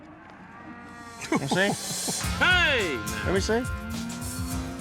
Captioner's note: chuckling